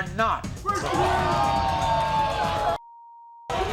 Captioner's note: yelling